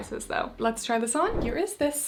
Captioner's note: screen whooshing